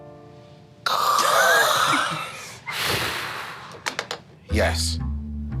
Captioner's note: group laughing